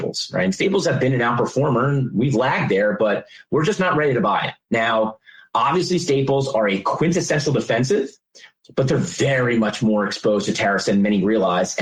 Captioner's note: defensive